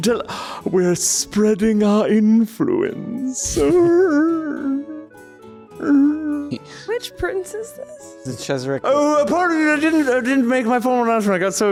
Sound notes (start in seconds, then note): 3.0 groaning